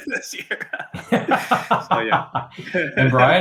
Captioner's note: laughing